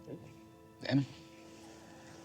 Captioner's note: spanish